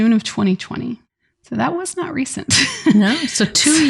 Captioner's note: laughs